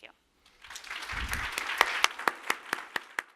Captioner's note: audience applause